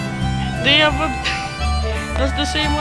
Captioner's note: giggle